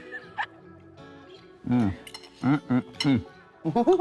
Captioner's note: laugh